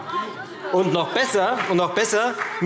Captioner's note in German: Beifall